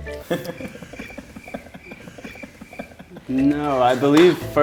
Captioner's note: men giggling